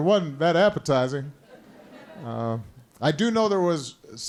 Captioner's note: laughter